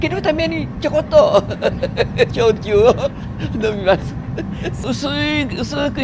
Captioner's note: laugh